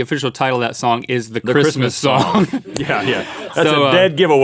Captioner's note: laughs